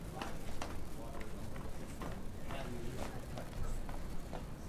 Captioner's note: footsteps thudding